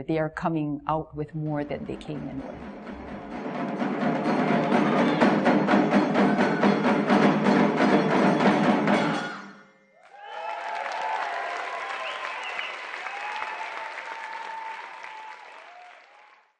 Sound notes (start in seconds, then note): 1.5 drumming; 10.0 cheering